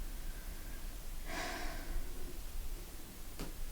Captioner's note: sighs